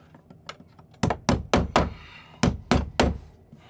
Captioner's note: hammering